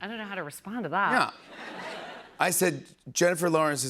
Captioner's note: laughter